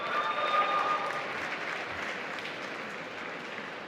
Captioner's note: applause